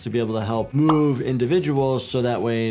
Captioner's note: graphics popping